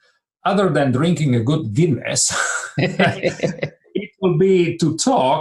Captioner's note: laughs